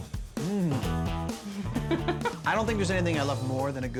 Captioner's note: laughing